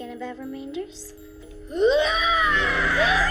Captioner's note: screams